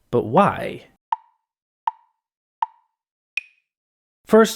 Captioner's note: tick, tick, tick, tick, tock